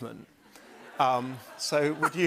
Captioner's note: laughter